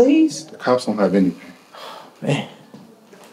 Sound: sighs

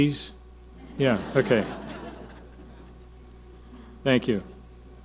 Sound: audience laughing

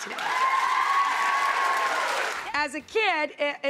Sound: audience cheers

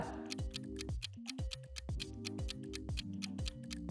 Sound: clock ticking

